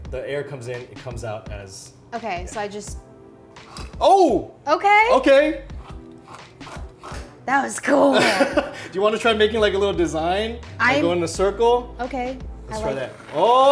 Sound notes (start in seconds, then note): 6.5 dispenser hisses; 8.0 laughs